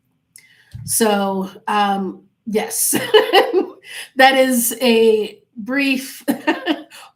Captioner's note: laughing